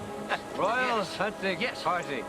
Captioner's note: laughing